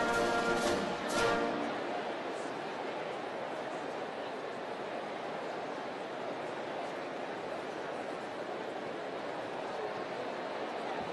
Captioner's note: cheering and applause